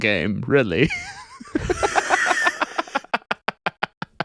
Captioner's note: laughing